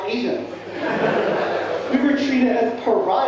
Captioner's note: audience laughing